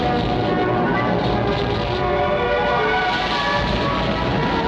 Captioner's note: flames crackle